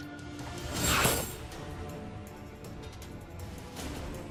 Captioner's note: laser blasts